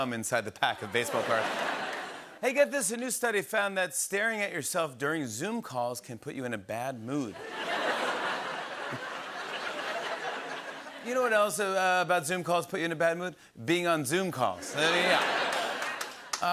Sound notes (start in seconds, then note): 7.3 laughter